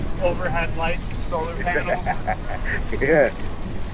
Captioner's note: friend laughing